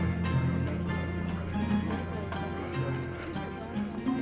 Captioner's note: upbeat Turkish music; patrons chattering